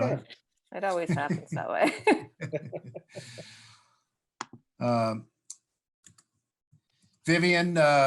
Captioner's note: laughter